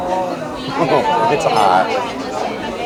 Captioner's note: laughs